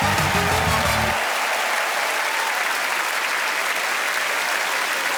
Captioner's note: cheers and applause